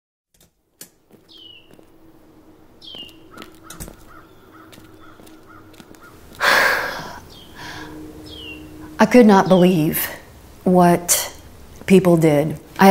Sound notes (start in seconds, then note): 0.8 door opens; 3.7 door closes; 7.5 deep sigh